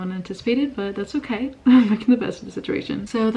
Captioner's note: laugh